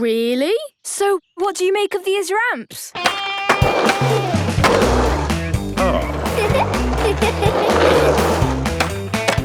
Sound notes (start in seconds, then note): 2.9 rock music; 5.8 giggles